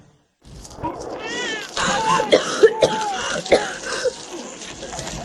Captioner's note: coughing